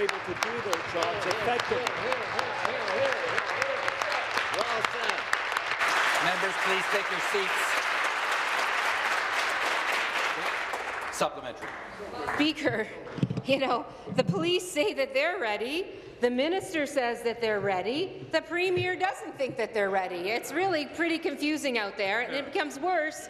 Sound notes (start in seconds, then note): 5.0 applause